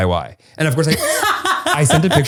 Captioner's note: laughs